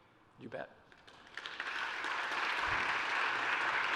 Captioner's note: applause